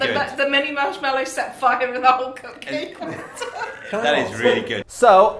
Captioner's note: start laughing